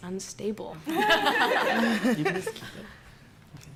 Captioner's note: laughter